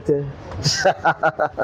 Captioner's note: laughs